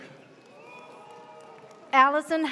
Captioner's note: audience cheers